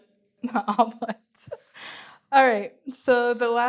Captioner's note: laughs